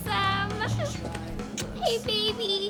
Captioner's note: kissing sound